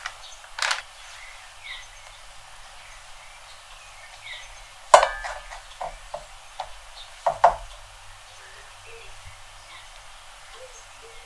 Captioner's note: tenderizing